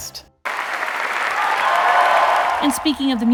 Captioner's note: audience cheering